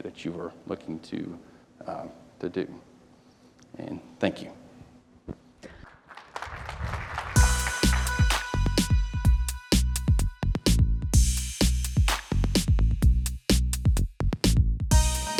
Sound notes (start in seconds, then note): 5.8 applause